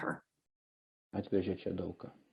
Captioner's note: speaking foreign language